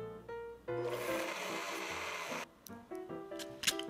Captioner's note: blender sound